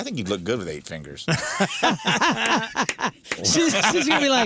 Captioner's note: laughter